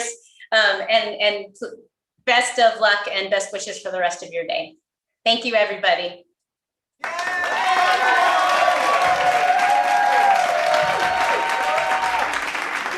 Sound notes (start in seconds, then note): 8.7 applause